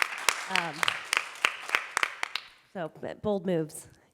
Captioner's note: audience clapping